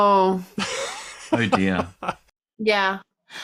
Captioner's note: laughs